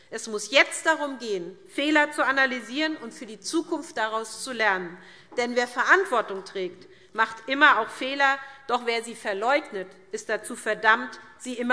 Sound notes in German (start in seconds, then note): none